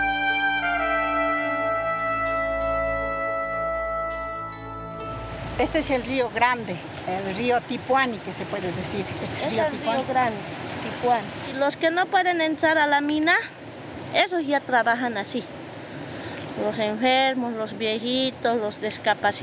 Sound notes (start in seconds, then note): 6.1 speaking in foreign language